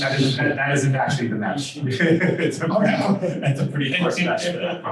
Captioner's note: laughter, undistinguishable comments